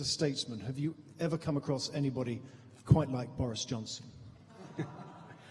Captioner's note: laughter